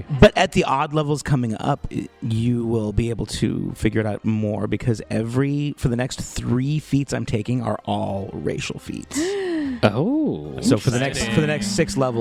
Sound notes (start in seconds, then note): 9.1 gasps